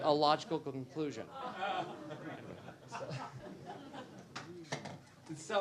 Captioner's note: laughter